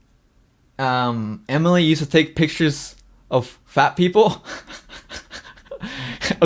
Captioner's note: laughs